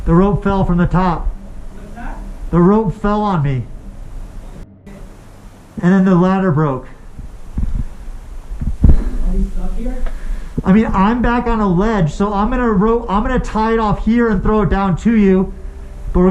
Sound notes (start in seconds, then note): 5.5 beep; 7.0 wind blows over microphone; 7.6 heavy breathing